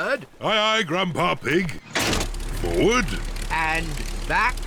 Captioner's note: lever clunks